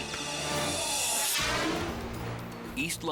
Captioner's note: air whooshes; gentle tense music